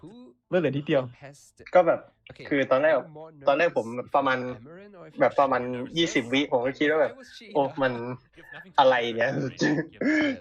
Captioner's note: laughs